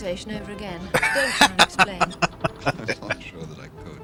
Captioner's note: laughing